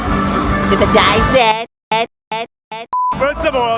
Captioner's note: speaks in foreign language - "Daiz It"